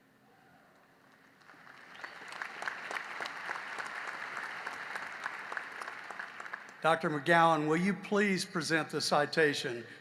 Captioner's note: applause